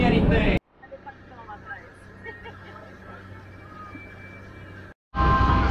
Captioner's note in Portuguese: risos